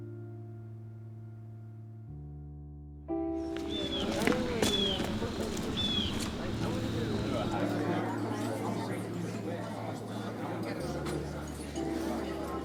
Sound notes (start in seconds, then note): 3.6 bird cawing; 6.9 indistinct student chatter